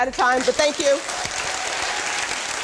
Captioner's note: applauding